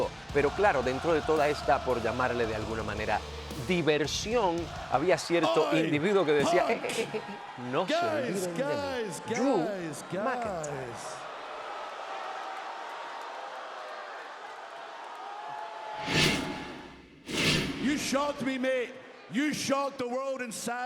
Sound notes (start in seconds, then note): 11.2 applause